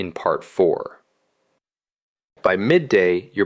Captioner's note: pause